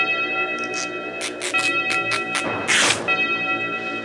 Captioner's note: ropes tearing